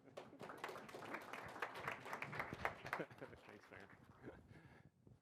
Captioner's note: audience applauding